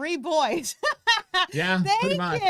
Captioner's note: laughs